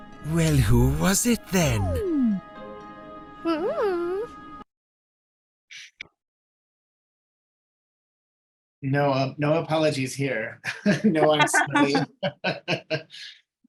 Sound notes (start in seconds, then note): 10.6 both laughing; 10.7 chuckling